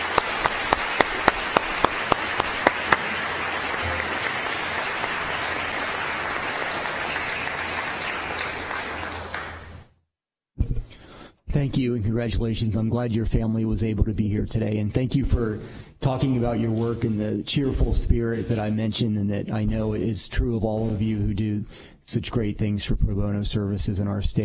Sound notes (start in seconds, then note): 4.0 applause